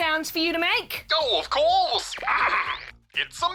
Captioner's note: clears throat